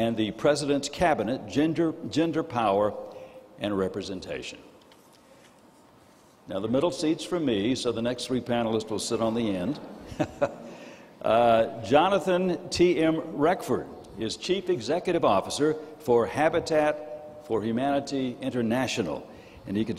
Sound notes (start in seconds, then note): 9.9 chuckles